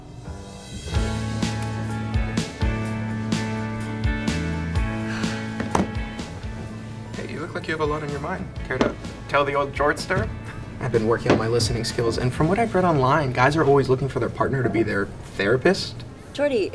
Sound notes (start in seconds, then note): 1.4 upbeat music plays; 4.8 Victoria sighs; 5.5 phone thuds